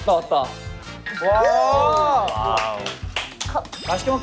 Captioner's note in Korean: 신난 목소리